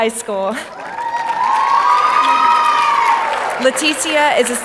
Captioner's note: audience applauding